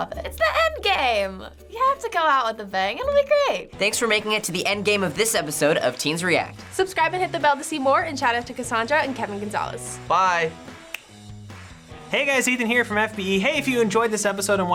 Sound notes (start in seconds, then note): 10.9 snaps